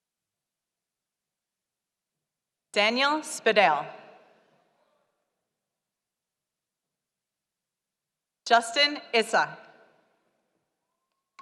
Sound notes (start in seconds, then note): none